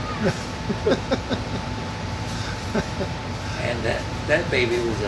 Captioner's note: laughing